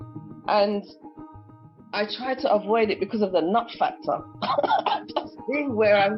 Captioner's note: laughs